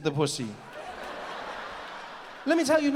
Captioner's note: audience laughs